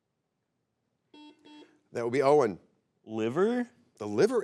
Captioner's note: buzzer beeps